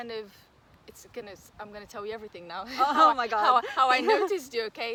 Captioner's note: risos